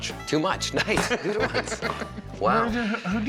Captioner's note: laughs